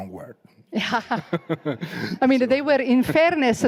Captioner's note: both laughing